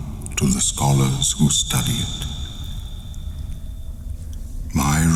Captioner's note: cave noises